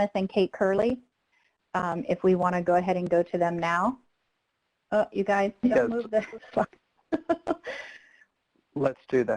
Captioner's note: laughter